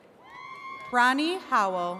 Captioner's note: attendees cheering